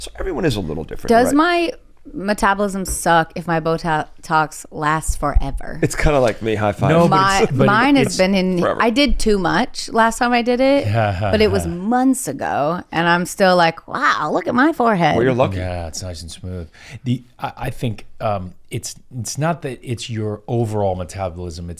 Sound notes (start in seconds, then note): 5.8 laughs; 10.9 chuckles